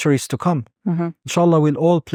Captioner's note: speaking Arabic